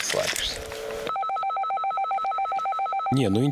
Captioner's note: the sound of calling the radio